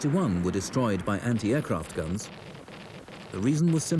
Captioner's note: rockets blast